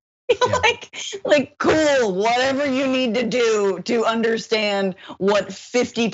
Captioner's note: laugh